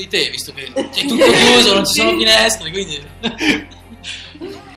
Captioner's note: laugh